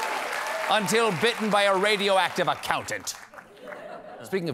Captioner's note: cheers and applause